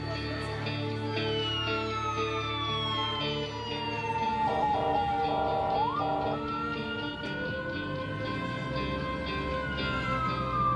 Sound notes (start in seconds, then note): 1.8 sirens wail